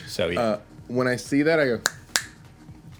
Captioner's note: snaps